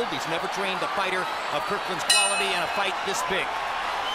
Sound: bell rings

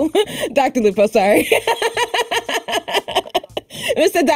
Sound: laughs

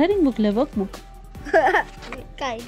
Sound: giggles

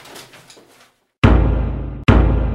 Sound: thump

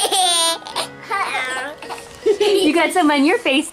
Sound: laughs

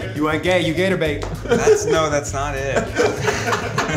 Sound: Keith laughs

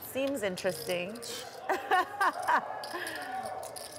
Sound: laughs

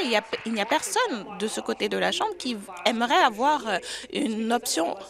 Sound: applause

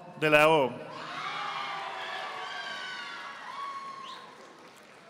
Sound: audience applauding

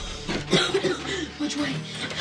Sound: coughing

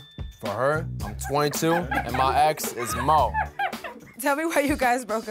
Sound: group laughsing

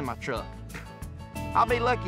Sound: scoffs

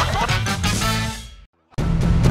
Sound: laughter

